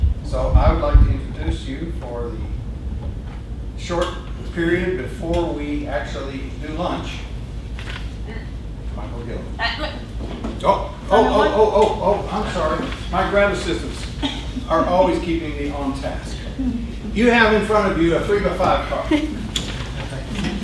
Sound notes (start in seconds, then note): 9.8 voiceover